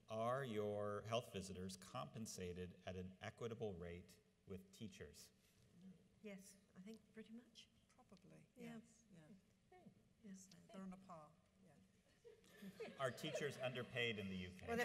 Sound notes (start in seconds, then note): 12.5 audience laughs